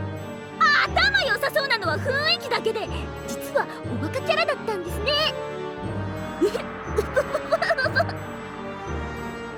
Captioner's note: giggle